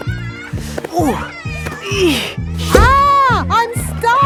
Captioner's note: grunting